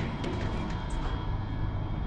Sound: door clanks

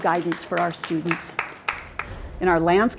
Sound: audience applause

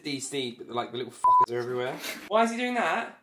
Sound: beep

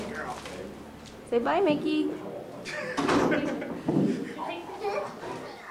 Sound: laughter

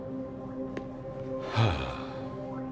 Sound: sigh

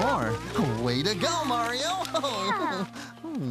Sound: giggles

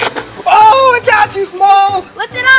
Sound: crocodile closing; water spraying

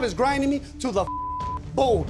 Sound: beep

